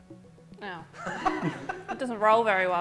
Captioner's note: laughter